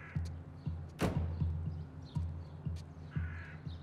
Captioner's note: suspenseful music; car door slams